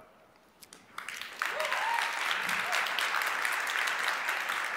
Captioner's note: audience applauds